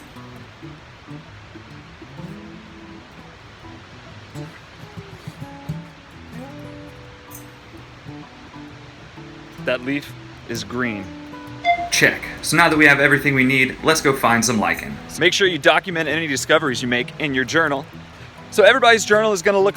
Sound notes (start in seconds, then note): 11.6 ding